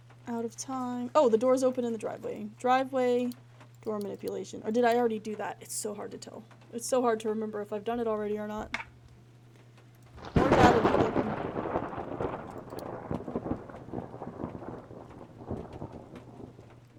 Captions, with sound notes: "Out of Time." Oh! The door's open in the Driveway. Driveway. Door Manipulation. Or did I already do that? It's so hard to tell. It's so hard to remember if I've done it already or not. "More Data Needed." [Thunder] [Thunder Continues]